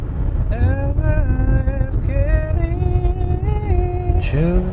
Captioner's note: still humming freely